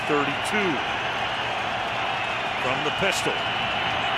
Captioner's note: cheering